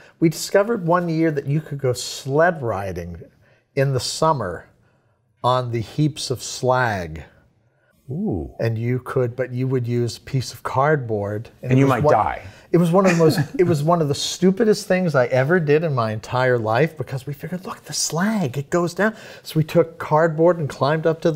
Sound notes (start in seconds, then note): 12.9 chuckles